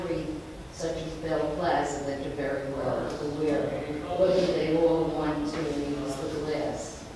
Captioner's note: speaks away from mic